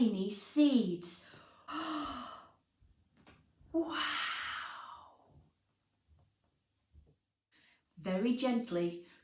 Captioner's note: gasp